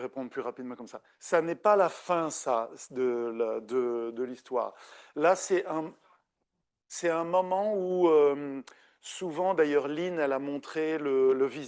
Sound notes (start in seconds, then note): 4.5 continues speaking French